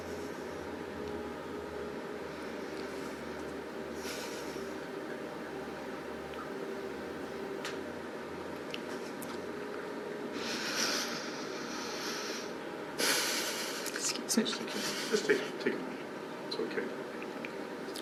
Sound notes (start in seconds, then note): 10.4 exhales; 10.4 sobbing